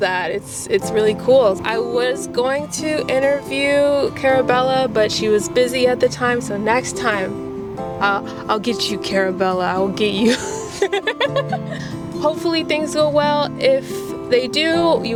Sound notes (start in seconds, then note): 10.2 laughter